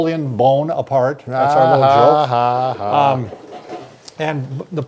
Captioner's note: laughs exaggeratedly